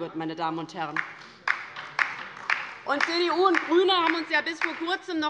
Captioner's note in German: Beifall bei der LINKEN